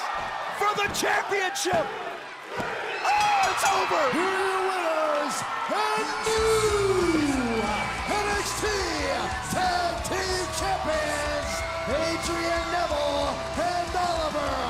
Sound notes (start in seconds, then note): 2.2 crowd chatter; 4.3 bell ringing